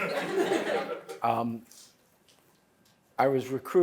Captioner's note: laughter